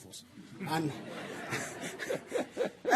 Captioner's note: laughter